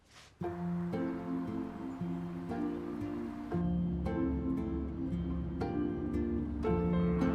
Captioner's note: gentle music; engine rumbling